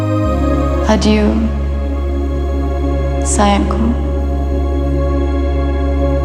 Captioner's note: warm synth music; speaking in foreign language